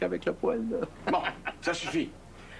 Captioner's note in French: Rire